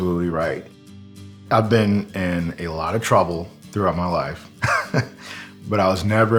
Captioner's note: laugh